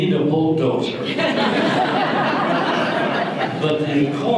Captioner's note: audience laughter